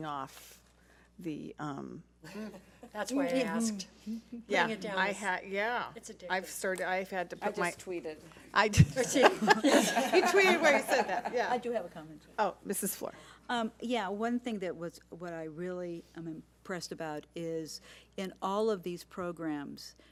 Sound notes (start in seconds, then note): 9.1 board laughs